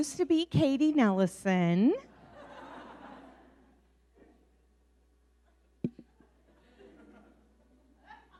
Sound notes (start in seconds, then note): 2.2 audience laughing